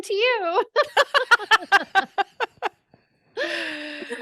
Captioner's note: laughing